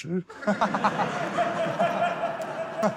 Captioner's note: laughter